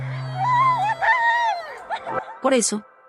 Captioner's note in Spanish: ovación